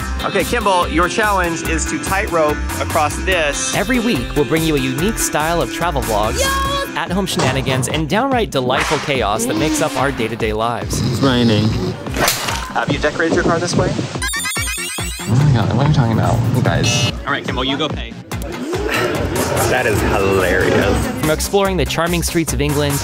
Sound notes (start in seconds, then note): 12.1 smack sounds; 18.8 sigh